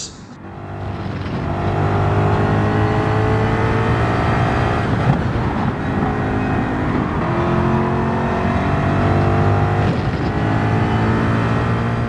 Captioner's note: engines revving, cars noises